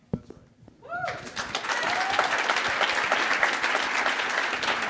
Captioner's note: audience applauding